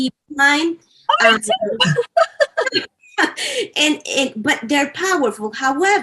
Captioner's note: laughter